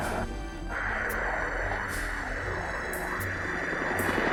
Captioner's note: helicopter buzzing